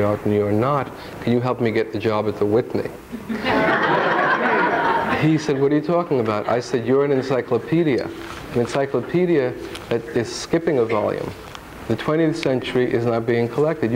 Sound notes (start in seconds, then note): 3.1 audience laughing